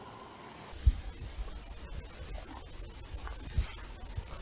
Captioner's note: camera clicking